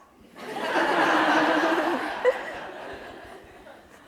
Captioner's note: audience laughs